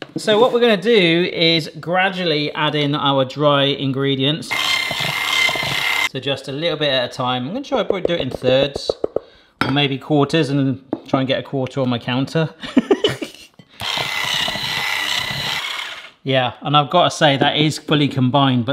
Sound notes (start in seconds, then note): 4.5 whisk whirring; 12.7 laughs; 13.8 whisk whirring